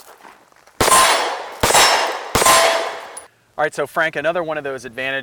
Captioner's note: gunshots fired